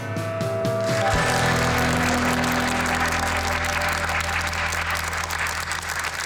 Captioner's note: crowd applauds